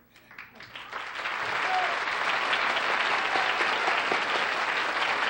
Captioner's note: applause